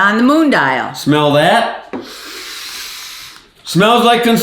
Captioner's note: sniffing loudly